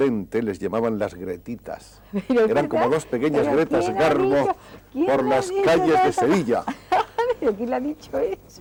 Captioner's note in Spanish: risas